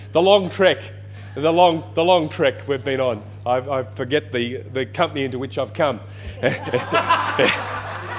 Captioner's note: laughter